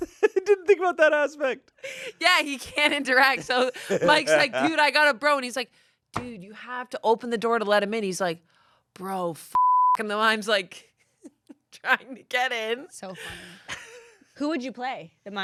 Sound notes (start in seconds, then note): 9.5 beep